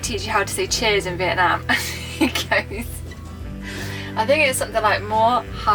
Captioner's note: starts laughing